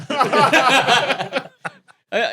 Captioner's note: group laughing